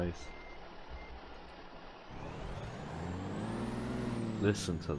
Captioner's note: revving the engine